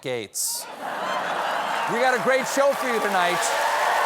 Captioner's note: laughter; applause